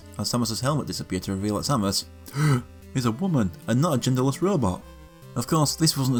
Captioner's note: gasp